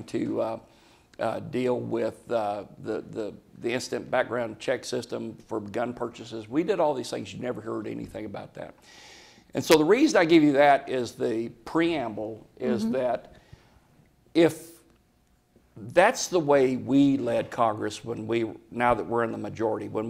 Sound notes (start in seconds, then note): none